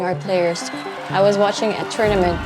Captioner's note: crowd cheering, applauding